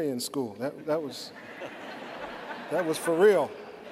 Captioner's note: laughter